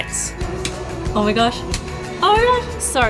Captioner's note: light switch clicks